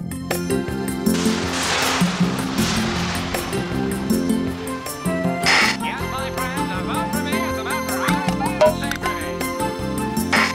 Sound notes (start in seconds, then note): 6.2 sounds from the tv